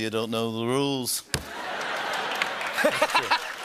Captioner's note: laughter and applause